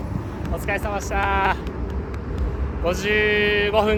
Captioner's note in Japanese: 拍手